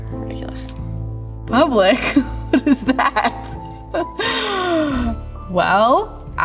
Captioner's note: laughs